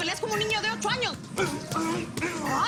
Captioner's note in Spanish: Gruñidos